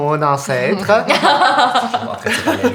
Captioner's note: laughter